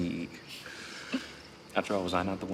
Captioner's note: laughs